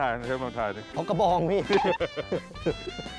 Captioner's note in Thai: เสียงหัวเราะ